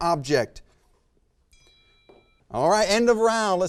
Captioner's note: bell rings